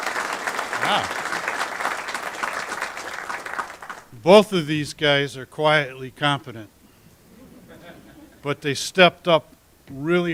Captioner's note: applause